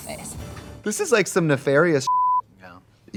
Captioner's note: beep